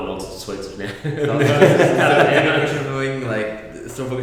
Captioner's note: laughter